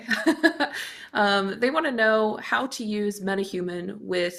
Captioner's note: chuckles